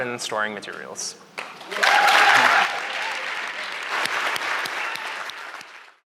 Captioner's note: applause